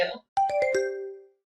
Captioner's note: question ding